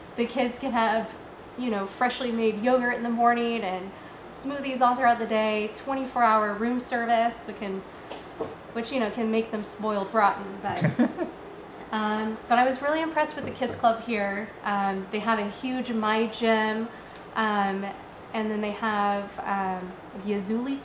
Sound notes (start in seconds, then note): 10.7 chuckles